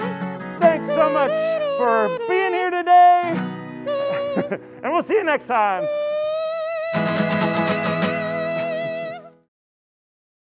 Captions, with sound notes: Thanks so much for being here today (laughs) and we'll see you next time. (imitates kazoo) (upbeat guitar music)